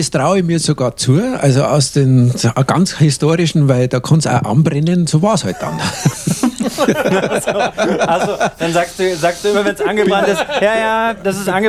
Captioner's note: laughing